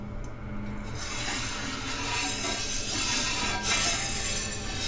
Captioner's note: grinder scraping